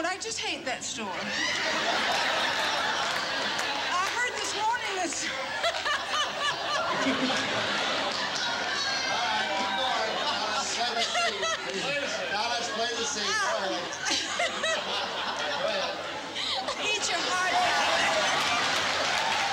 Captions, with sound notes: I just hate that store. I heard this morning-- [LAUGHING] - All right. Keep going. Play the scene. Guys, play the scene. Go ahead. Eat your heart out.